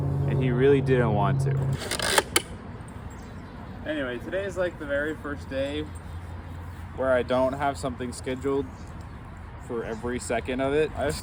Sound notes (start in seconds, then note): 1.8 launcher cocking